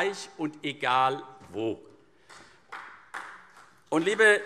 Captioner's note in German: Vereinzelter Beifall CDU und BÜNDNIS 90/DIE GRÜNEN